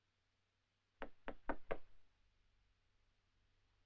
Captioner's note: knock at door